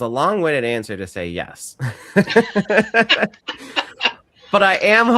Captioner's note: all laughing